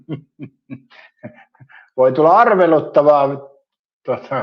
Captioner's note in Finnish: naurua